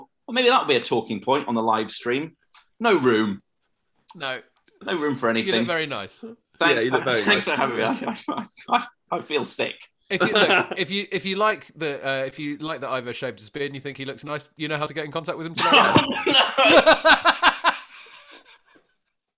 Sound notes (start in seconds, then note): 10.2 laughter; 15.5 laughter